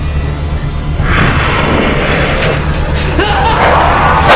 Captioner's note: Henrietta growling; gun firing; Henrietta roaring; Frank screaming